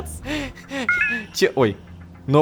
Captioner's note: new notification